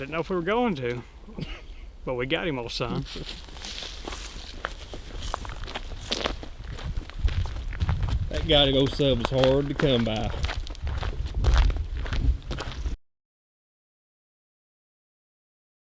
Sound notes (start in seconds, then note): 1.3 chuckles